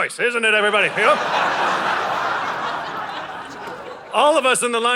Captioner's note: audience laughing